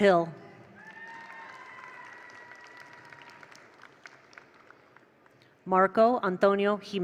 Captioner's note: attendees cheer; attendees applaud